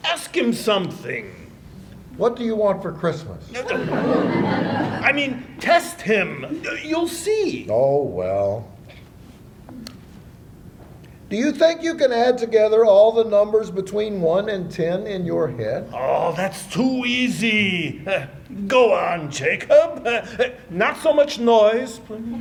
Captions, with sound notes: Ask him something. What do you want for Christmas? [laughter] I mean, test him. You'll see. Oh, well. Do you think you can add together all the numbers between 1 and 10 in your head? Oh, that's too easy. Go on Jacob, not so much noise.